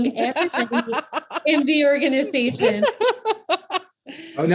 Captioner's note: laughs